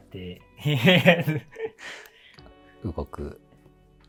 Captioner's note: laughing